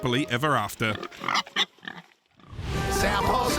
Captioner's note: pig oinking